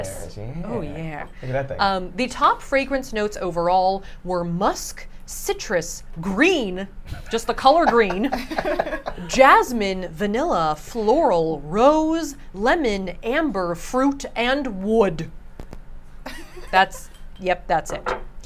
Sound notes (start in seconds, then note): 16.3 giggles